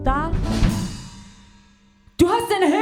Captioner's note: crash